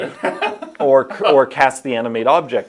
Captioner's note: interviewing laughing